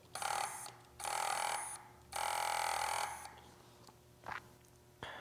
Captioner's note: dissapointing buzzing from the motor